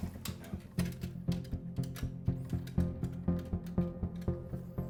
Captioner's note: phone dial clicking